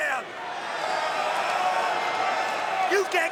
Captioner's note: crowd cheering